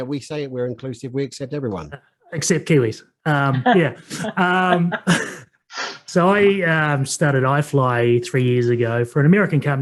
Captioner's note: laughs